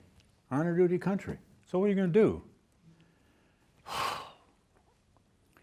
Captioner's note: sighs